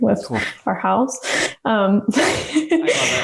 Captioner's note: laughs